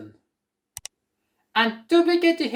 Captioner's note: click sound